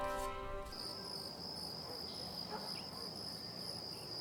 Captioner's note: insects chirping